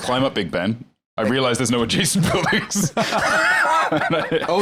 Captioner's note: laughs